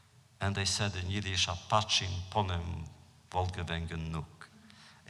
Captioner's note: foreign language